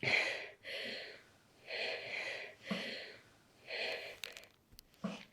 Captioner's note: heavy breathing